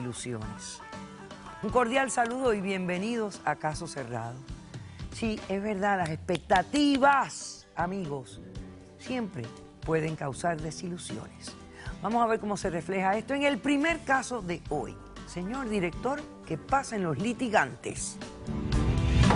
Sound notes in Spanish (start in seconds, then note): 6.0 Palmoteando